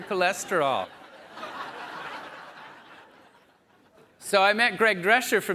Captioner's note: audience laughs